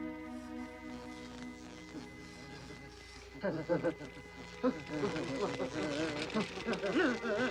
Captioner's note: machine buzzing